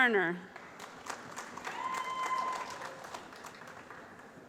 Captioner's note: applause